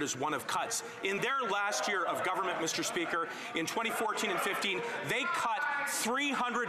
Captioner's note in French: voix de l'interprète